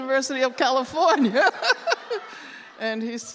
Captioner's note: laughter